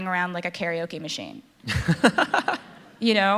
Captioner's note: laughter